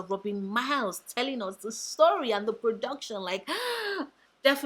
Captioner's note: sigh